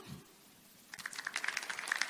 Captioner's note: audience applauding